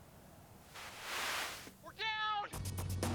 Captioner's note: radio static